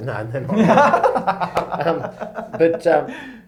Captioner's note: laughs